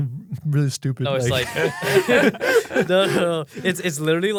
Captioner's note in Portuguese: risos